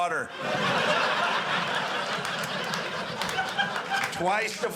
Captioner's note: audience laughing